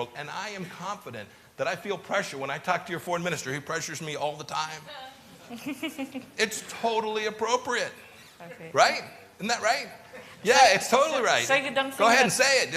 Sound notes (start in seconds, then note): 5.4 laughter